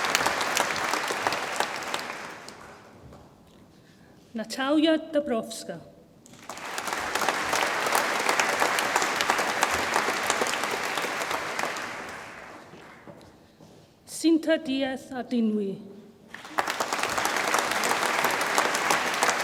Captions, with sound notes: Natalia Dabrowska, (audience applauds) Cinta Diez Ardanuy, (audience applauds)